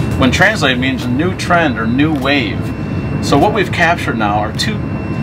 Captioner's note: none